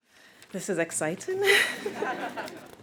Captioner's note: laughs; audience laughs